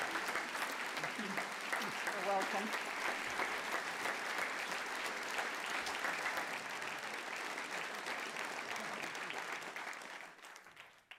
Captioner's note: applause